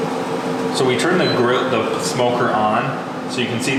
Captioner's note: beep